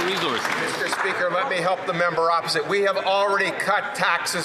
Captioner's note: some Applause